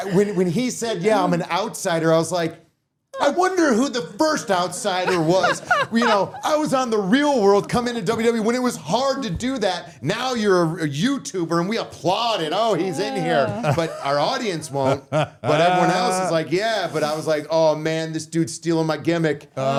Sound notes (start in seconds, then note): 12.9 all laughing